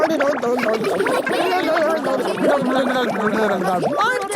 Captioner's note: children laughing